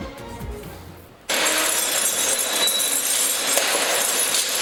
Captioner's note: chains rattling